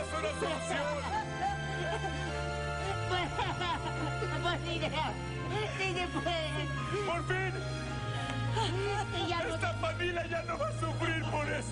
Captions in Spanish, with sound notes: HIJO ÍO! ERES UN GENIO (LLORAN)